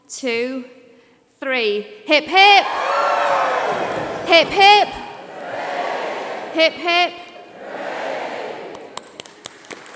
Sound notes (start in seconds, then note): 4.1 applause